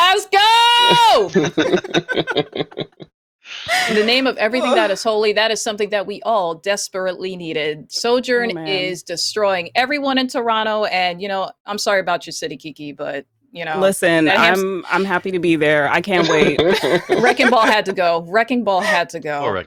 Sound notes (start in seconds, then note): 3.0 laughter